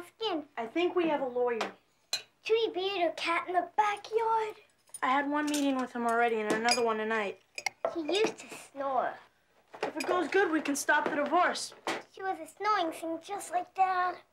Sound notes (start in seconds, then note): none